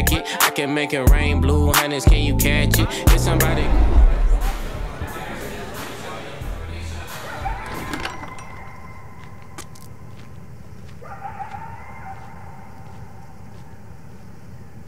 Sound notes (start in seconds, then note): 7.6 wolf howling